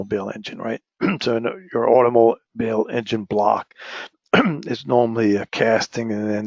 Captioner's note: cough